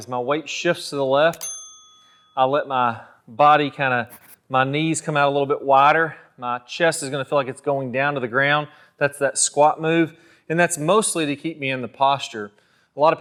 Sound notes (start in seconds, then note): 1.3 bell dinging